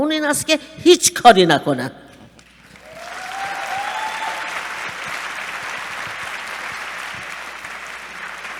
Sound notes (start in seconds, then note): 2.6 applause